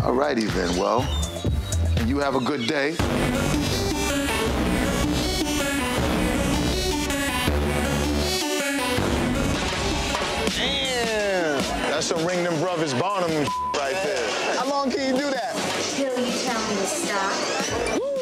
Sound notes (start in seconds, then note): 3.5 mellow hip hop music; 13.4 beep